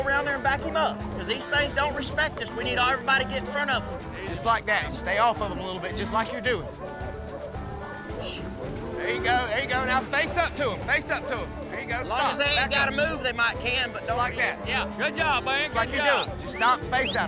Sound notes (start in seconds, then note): 6.8 hoofbeats; 12.0 all shouting